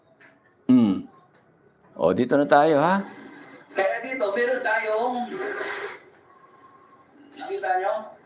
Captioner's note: clears throat